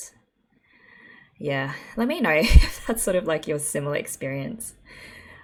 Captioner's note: laughs